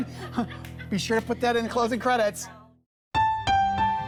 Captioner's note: laughter